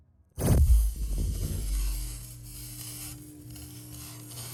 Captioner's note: slow-motion electric zapping